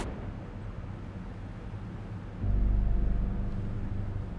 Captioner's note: none